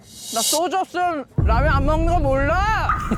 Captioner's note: sudden personality switch sound